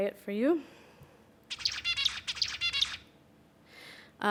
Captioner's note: bird singing